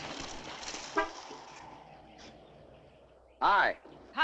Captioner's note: car horn honks